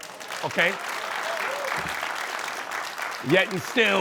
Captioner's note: applause